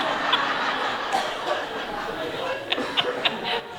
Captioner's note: laughter